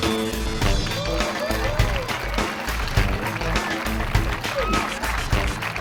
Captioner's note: audience applauding